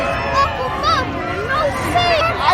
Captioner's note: booing, Angrily Yelling/Shouting